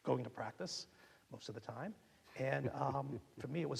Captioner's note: chuckling